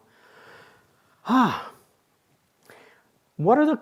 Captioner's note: sighs